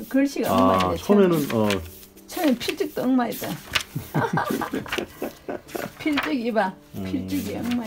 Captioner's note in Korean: 웃음